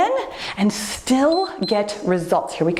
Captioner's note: timer beeps